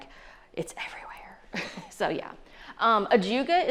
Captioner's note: chuckles